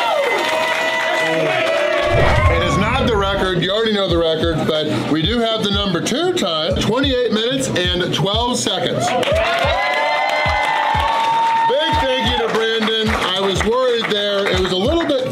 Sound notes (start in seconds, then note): 9.0 crowd cheering